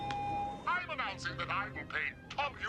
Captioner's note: feedback whines